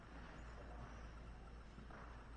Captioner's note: none